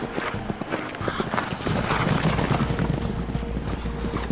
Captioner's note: horses running